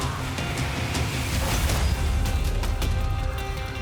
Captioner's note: cheers and applause